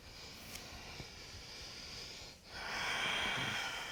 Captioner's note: deep breathing